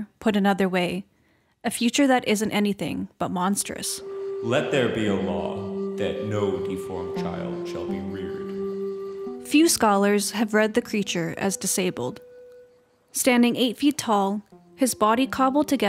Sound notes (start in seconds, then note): 9.2 echo